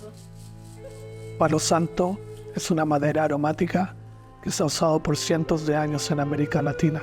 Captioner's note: narrator speaking in foreign language